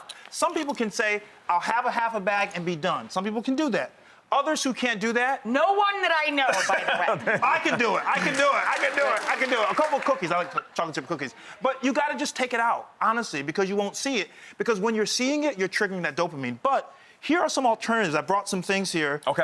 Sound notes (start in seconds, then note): 6.5 laughs loudly; 9.5 crowd clapping